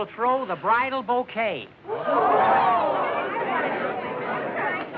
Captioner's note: chatter